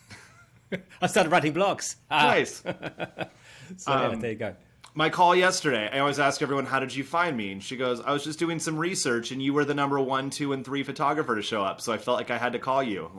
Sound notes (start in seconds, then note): 0.7 laughing